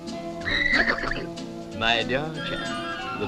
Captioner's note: neighing